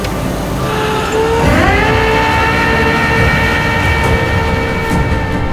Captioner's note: flatbed winch whirring